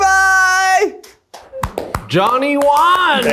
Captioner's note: all clapping